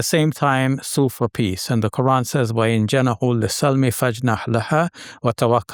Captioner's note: speaking Arabic